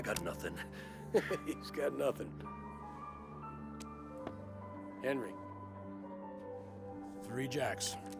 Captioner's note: laughing